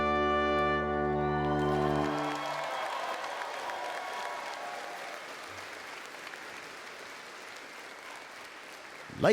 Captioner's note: applause